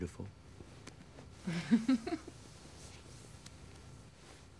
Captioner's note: laughs